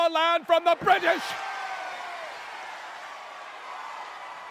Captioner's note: crowd cheering